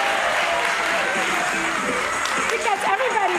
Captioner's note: audience cheering